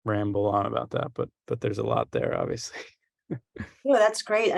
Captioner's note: chuckles